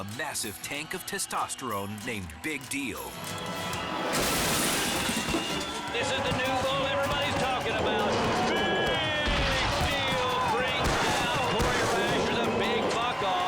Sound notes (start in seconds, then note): 4.2 gate rattles; 10.3 thuds